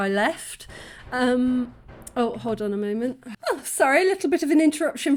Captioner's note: knocking